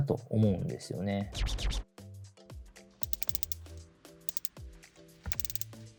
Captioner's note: suddenly! Bezel click sound check!